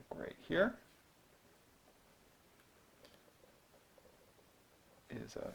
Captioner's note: writing